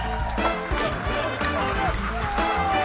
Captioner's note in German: Gluckern